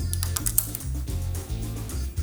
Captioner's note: buckle clicks